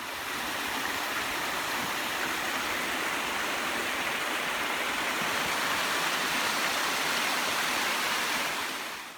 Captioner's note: sound of creek